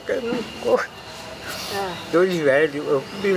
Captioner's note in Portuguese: Voz falhada de emoção durante o canto; suspiro de emoção